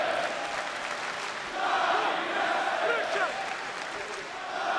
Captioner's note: crowd cheering